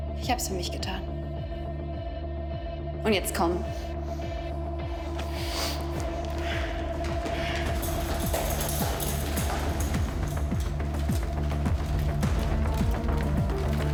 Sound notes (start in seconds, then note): 5.3 Jan breathing - music; 8.3 footsteps - metallic sounds; 11.2 fast music